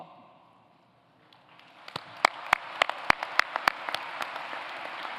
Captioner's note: applause